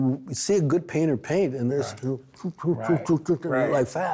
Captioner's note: vocalizing painting